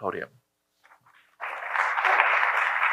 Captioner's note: applause